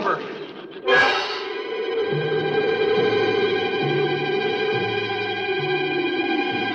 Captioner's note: tense music continues; wind howls